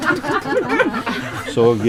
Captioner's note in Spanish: Risas